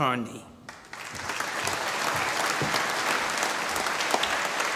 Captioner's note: applause